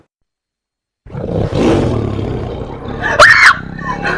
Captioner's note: tiger roar